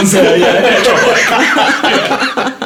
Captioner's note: laughing